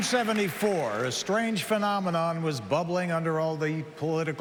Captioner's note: applause